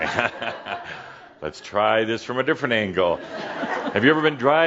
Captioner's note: some chuckles